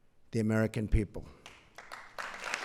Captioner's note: applause